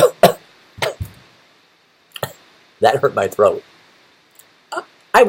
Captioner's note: cough